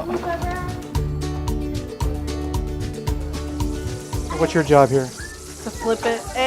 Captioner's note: grease sizzle